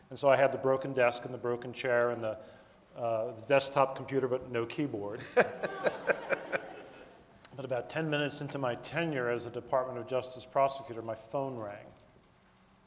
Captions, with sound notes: And so, I had the broken desk and the broken chair and the desktop computer, but no keyboard. (audience laughing) But about 10 minutes into my tenure as a Department of Justice prosecutor, my phone rang,